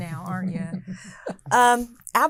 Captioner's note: laughing